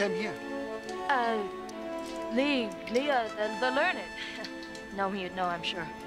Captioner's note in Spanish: riéndose